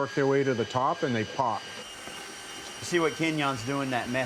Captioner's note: drill whirs